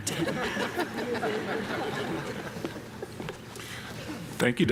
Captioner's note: audience laughing